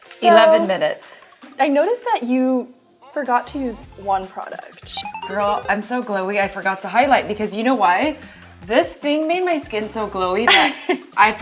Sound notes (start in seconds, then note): 4.9 beep